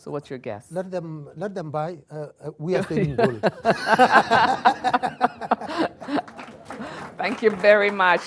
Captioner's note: laughter